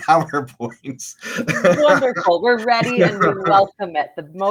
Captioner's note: laughs